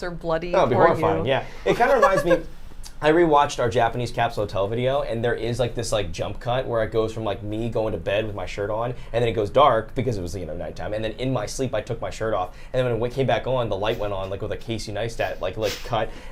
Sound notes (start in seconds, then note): 1.7 giggles